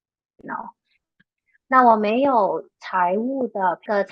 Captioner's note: speaking chinese